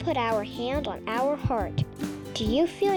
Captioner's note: heartbeat thumping